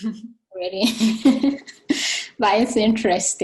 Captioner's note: both chuckling